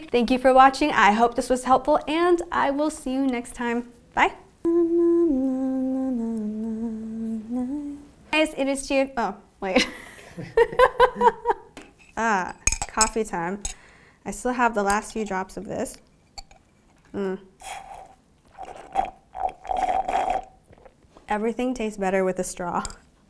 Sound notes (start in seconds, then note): 4.6 humming; 9.7 laughter; 18.4 slurping noises